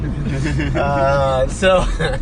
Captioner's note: laughing